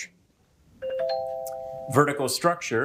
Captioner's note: bell ringing